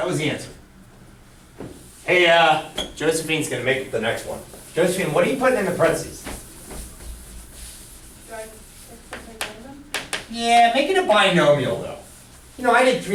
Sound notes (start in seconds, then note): 8.7 voiceover